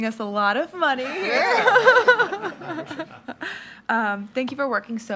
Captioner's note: all laughing